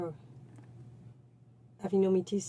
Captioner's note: speaking French